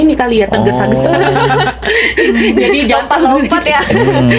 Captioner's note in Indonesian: tertawa